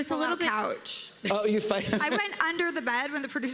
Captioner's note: laughs